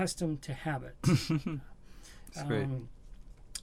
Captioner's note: laughs